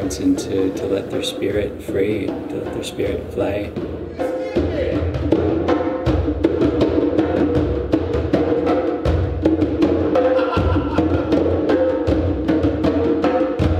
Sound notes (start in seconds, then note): 4.1 rhythmic drumming; 10.2 laughing